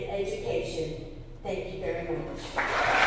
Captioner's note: applause